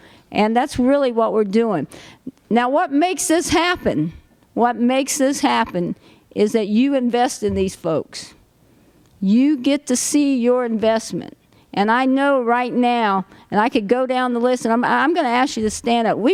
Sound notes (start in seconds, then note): none